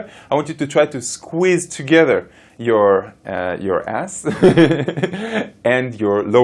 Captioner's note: laughs